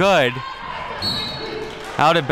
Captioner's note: referee blows whistle